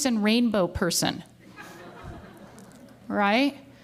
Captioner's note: laughter